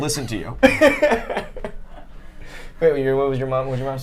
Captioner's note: both laugh